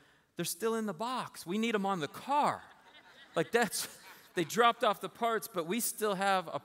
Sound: laughter

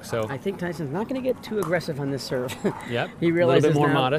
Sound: laughs

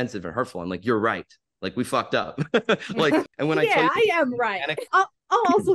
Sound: laughs

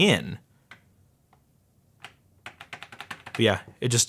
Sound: tapping

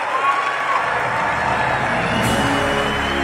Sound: applause

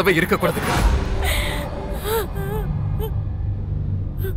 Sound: crying

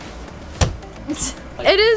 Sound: thud

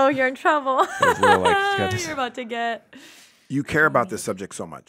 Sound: laughs

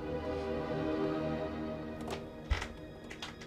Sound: door opening

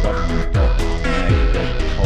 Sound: shitting music continues; loud airhorn interrupts; incohearent british rambling; shitting music continues

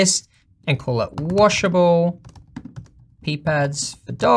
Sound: fast typing

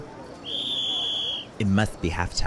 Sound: whistle blowing

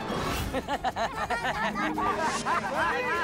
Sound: laughing

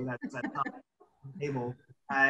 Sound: laughs

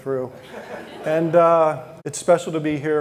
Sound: audience laughing

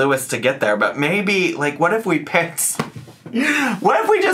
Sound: laughs

